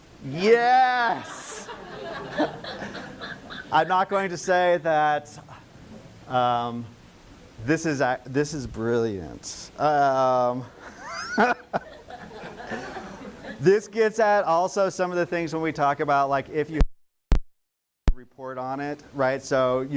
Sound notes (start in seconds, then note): 11.7 laughing